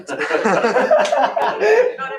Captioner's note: laughter